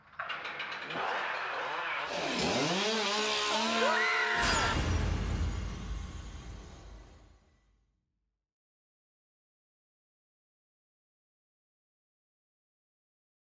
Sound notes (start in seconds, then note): 0.0 chainsaw whirring; 3.5 screaming